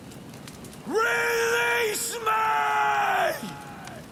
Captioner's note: screaming